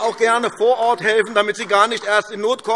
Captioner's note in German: Beifall AfD